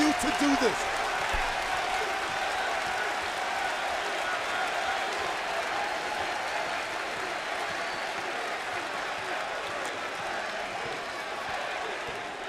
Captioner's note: crowd cheering